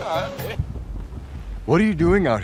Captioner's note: fireworks popping